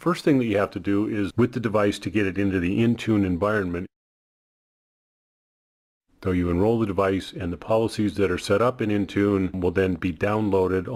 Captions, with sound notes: The first thing that you have to do is, with the device to get it into the Intune environment, (audio cuts out) so you enroll the device, and the policies that are set up in Intune will then be downloaded